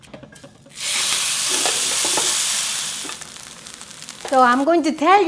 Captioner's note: sizzling